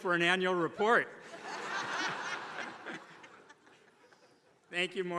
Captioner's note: attendees laughing